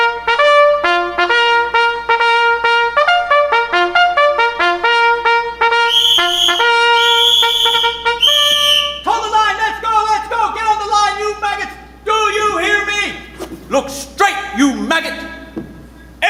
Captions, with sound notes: [whistle shrieking] Hold the line! Let's go, let's go! Get on the line, you maggots! Do you hear me? Look straight, you maggot!